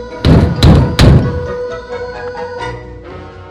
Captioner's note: door banging